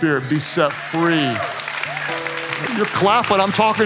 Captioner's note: congregation claps